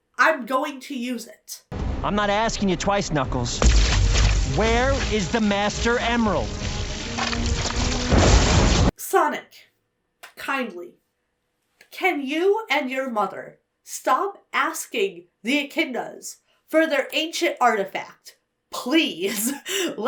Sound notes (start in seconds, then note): 3.7 hands crackle; 8.2 hands whoosh; 19.4 chuckles